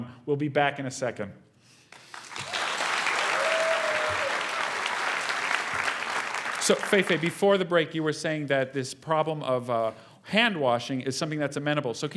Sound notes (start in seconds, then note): 1.9 applause